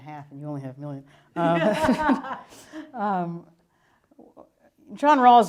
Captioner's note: laughter